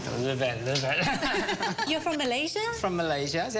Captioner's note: laughs